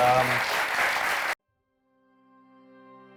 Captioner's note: audience clapping; light music